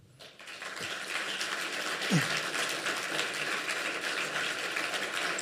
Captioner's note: applause